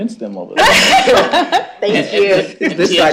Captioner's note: laughter